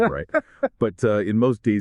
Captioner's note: ha-ha